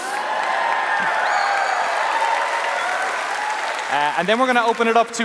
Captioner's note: applause